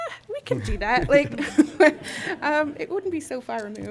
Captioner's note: laughter